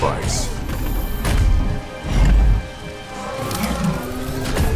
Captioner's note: robot whirring